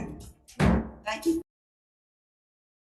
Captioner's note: gavel banging